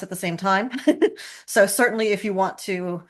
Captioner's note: laughing